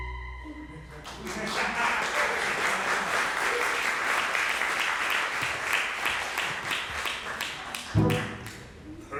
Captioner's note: applause